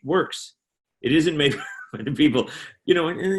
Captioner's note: chuckling